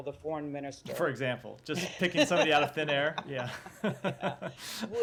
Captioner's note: laughter